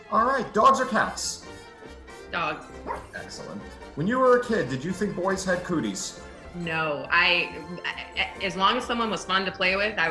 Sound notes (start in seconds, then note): 2.8 woof